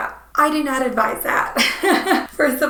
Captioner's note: laughing